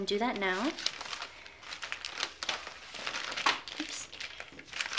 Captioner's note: rustles